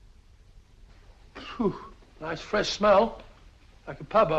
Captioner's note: sighs